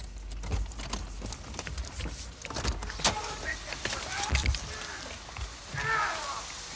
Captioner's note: door thudding; people yelling; blows thudding